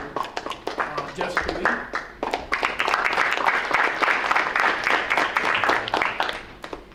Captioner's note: audience applauding